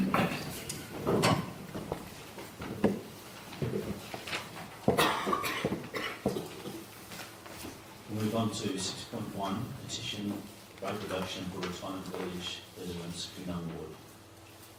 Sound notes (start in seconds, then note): 0.1 shuffling sounds; 4.9 coughing